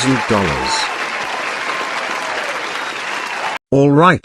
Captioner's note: audience Cheering